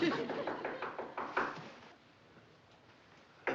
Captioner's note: knocking at door